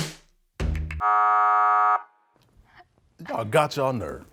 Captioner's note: buzzer rings